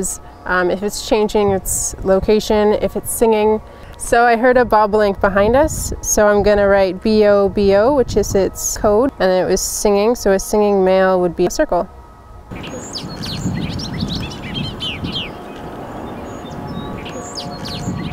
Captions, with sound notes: if it's changing its location. If it's singing, so I heard a Bobolink behind us, so I'm going to write Bobo which is its code, and it was singing, so a singing male would be a circle. (birds chirping) (soft music)